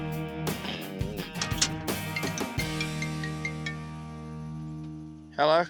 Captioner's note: cell phone rings